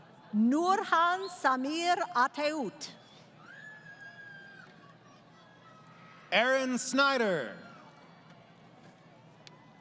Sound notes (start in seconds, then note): 3.8 crowd Cheering